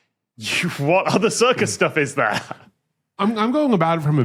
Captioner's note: cracks up